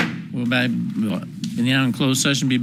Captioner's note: gavel bangs